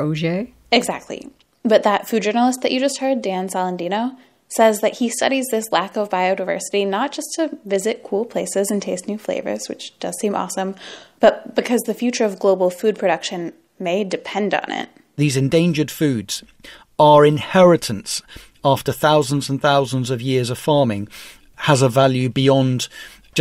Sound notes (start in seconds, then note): 14.7 soundbite of archived recording